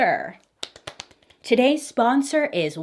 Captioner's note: clapping